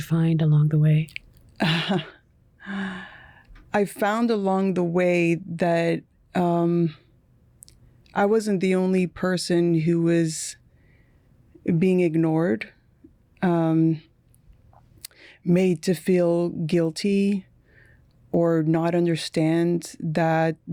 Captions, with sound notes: And what did you find along the way? (Chuckling) I found along the way that, um... I wasn't the only person who was being ignored, um... made to feel guilty or not understand that this is something